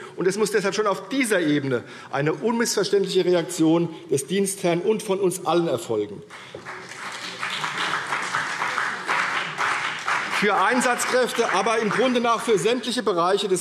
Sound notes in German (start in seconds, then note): 6.2 Beifall CDU